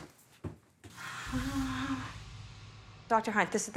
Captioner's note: gasps